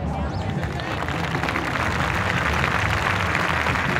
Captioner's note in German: Klatschen